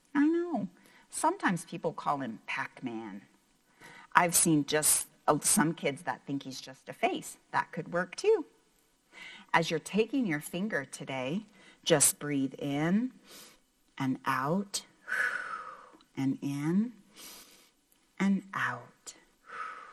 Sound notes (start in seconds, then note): 15.3 makes air whooshing sound; 17.1 breathes in